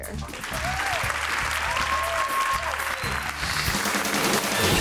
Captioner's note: audience claps and cheers; upbeat music